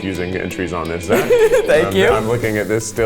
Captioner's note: laughs